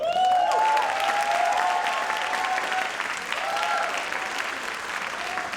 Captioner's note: audience cheers and applauds